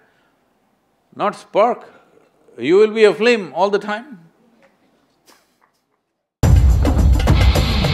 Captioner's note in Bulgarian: смее се